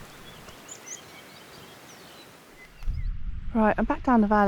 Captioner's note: mildly disturbed sheep and birdsong